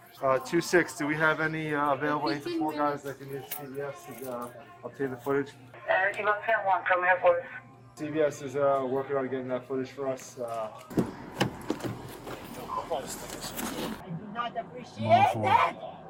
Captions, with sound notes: Uh, 26, do we have any, uh? Available for guys that can use CVS to, uh? Obtain the footage? (Radio chatter) CVS is, uh, working on and getting that footage for us, uh? I do not appreciate it!